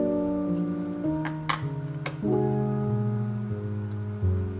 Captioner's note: spatula tapping